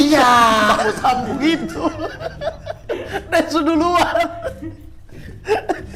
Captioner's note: laughing